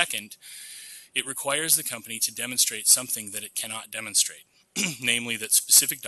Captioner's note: clears throat